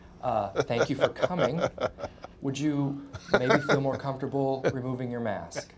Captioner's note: laugh